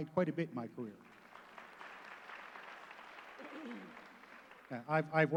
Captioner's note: applause